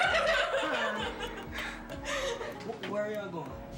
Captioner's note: girls laughing